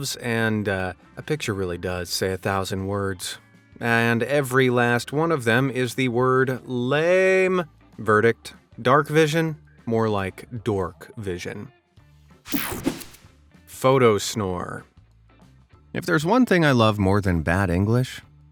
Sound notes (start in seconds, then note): 12.5 whooshing sound